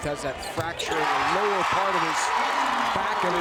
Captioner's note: crowd cheers